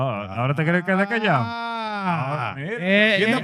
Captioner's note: speaking In Foreign Language